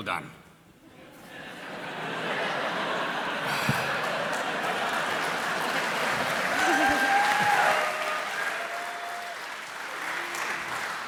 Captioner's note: applause